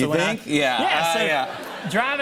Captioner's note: laughter